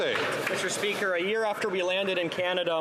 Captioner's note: some Applause